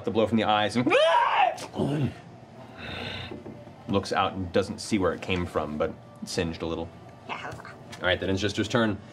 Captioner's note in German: kreischt